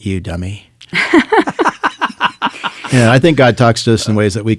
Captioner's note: all laughing